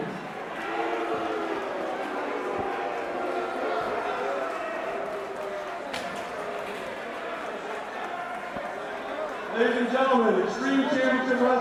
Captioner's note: crowd cheering